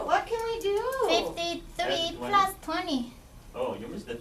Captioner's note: voiceover